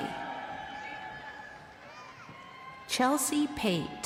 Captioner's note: crowd cheering